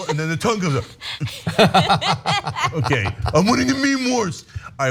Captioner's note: laugh